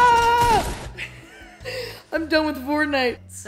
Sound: screams; laughs

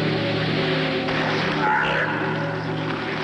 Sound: yelling

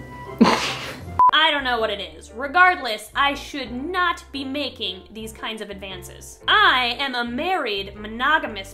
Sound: beep

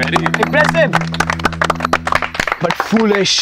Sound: clapping

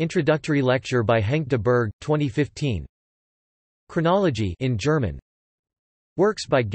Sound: in German

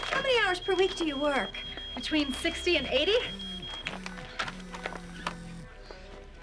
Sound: cellphone vibrates

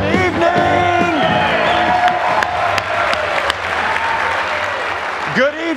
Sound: audience cheering

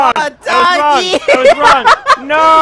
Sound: laughs

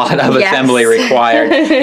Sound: laughs

